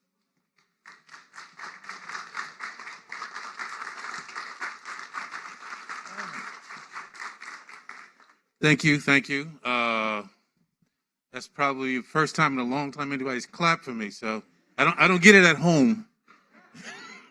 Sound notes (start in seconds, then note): 4.5 applause